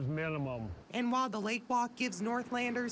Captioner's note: nat waves